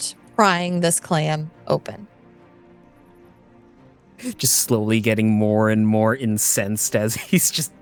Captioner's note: Yuiza muffled yelling